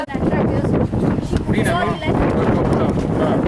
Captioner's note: powerful wind